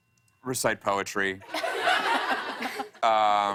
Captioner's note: laughter